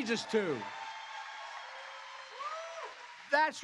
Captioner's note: applause